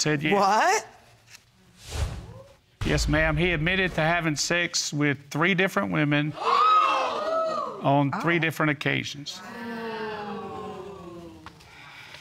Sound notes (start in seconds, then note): 6.4 audience exclaiming; 10.2 audience booing